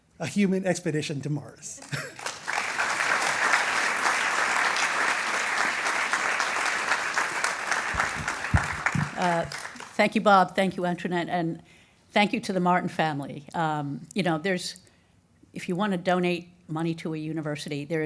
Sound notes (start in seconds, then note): 1.8 audience applauding